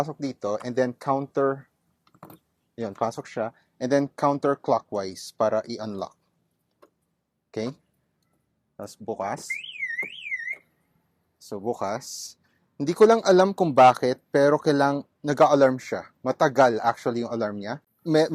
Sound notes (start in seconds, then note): 9.4 alarms